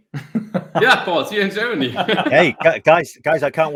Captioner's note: chuckles